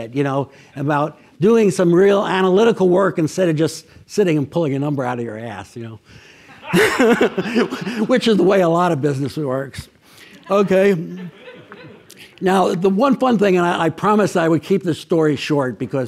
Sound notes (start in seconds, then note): 6.4 laughs; 6.4 audience laughs